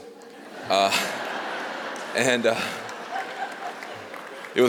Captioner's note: laughter